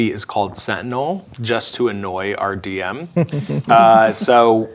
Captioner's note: chuckles